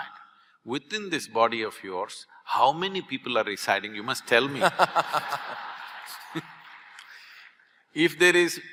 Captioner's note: laughter/Applause